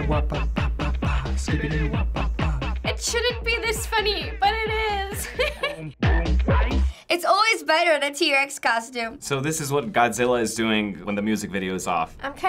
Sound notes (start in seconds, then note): 5.0 laughs